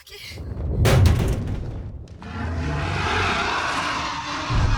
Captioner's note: car thuds; dragon growls